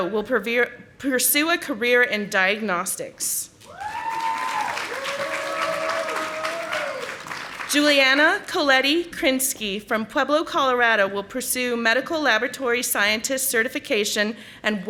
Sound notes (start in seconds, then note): 3.6 audience applauding